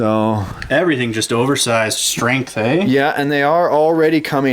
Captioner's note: voiceover